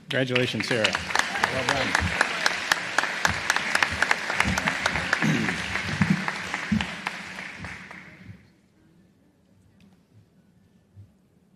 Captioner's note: applause